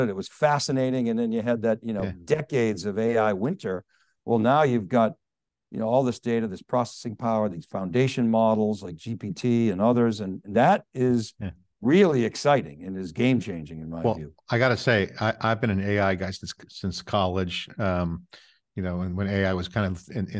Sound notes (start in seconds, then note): none